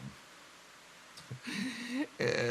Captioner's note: inhale